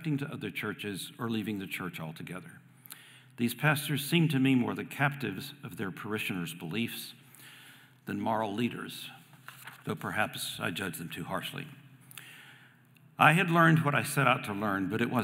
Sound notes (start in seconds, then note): none